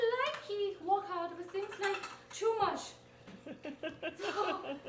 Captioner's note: people laughing